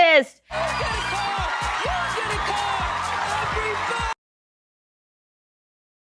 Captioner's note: Bertepuk tangan